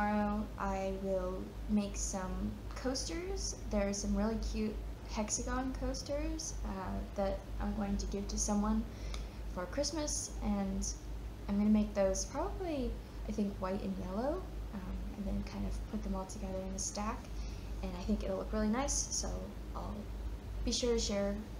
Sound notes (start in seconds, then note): none